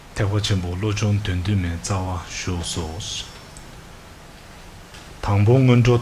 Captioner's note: reading in foreign language